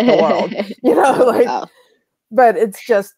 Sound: both laugh

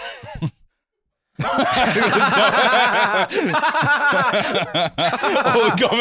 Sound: both laughing

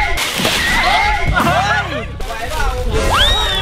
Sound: laughs

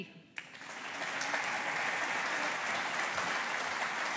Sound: audience applauding

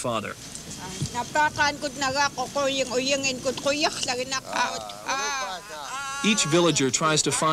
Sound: speaking yup'ik dialect

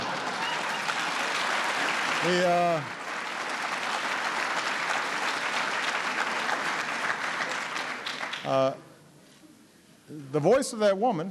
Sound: laughter and applause

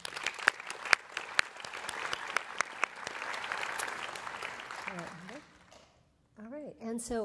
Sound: applause

